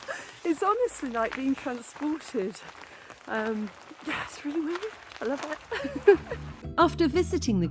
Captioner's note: giggling